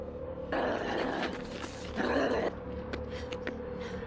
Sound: snarling

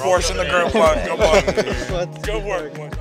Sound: all laughing excitedly

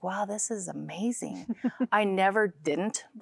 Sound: giggling

